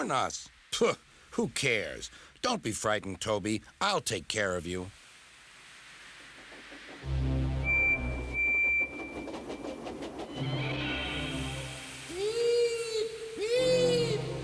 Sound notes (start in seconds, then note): 7.7 engine whistles, puffs, creaks; 11.8 frightening music playing